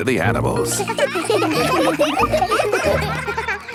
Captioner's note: children laughing